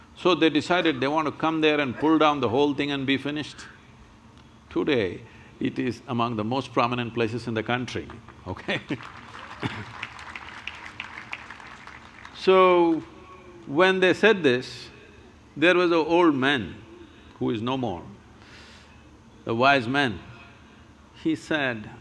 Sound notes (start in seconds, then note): 8.6 applause; 8.6 laughs